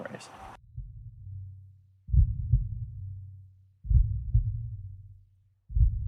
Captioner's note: heart beating